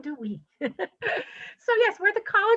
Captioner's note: she laughs